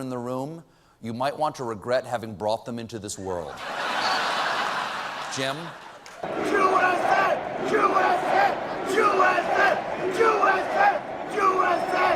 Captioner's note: laughter